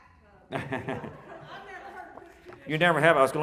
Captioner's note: laughing